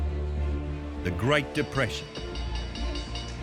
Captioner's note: bell ringing